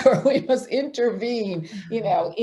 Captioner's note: laughs